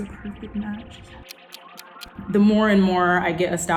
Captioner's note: clock ticking